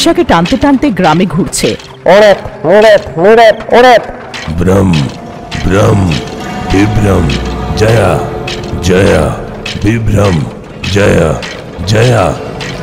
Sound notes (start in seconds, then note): 1.9 chants